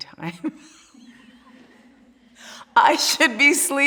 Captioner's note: laughing